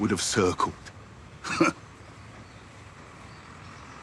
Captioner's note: he chuckles